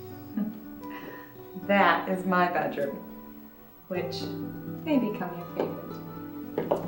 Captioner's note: chuckles